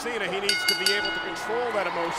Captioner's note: bell rings